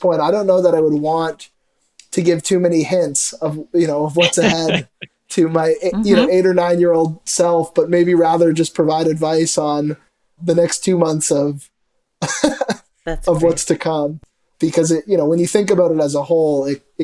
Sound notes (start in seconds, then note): 12.2 laughs